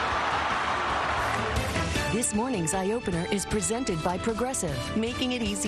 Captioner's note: cheers and applause